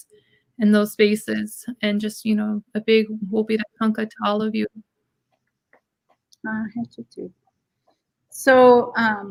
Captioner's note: speaking Dakota